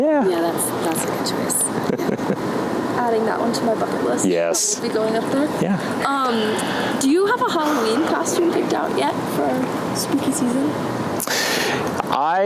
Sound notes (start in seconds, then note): 1.7 laughs